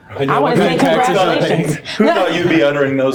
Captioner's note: laughing